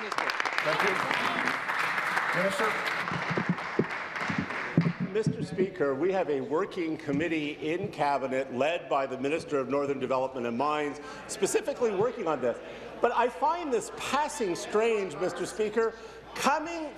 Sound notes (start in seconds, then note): 4.5 applause